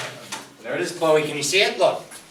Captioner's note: voiceover